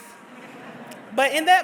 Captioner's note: audience laughs